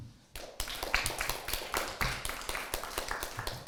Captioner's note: crowd claps